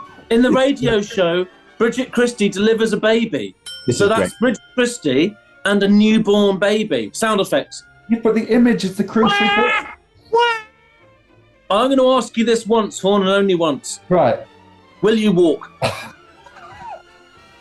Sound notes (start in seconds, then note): 9.2 wails; 16.3 sniggering